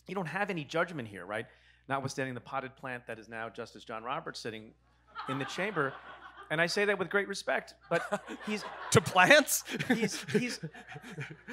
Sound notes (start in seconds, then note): 5.2 audience laughs; 10.6 laughs